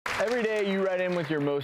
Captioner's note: clapping